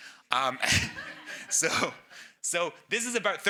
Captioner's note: audience laughs